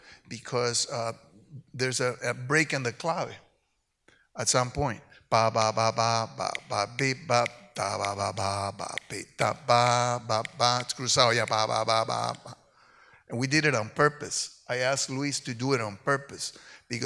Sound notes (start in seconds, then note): 2.8 speaks in Spanish; 5.4 vocalizes